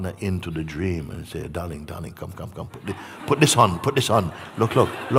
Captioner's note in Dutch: gelach